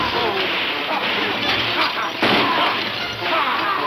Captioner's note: cowboys shouting